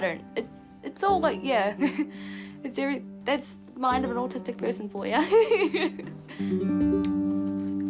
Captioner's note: laughs